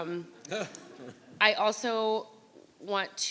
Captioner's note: audience laughing